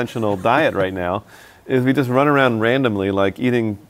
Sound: laughs

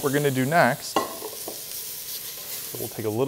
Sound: pan sizzling

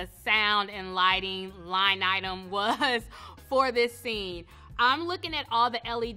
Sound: laughs

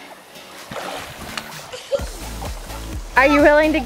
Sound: splash

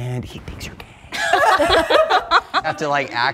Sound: all laughing

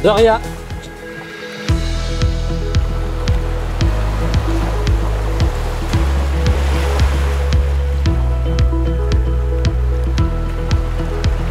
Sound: sound of waves

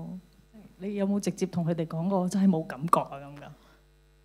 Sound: Cantonese

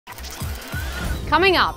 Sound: gears whirring

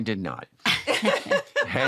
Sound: laughter

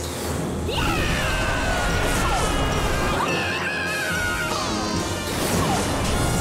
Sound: screaming

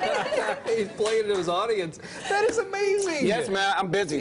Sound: laughter

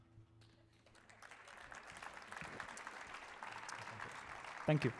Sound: audience applauding

